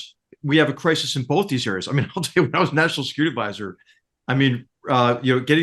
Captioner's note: laugh